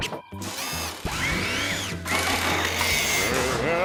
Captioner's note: mechanical whirring